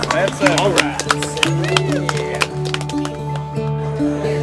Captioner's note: cheering; soft music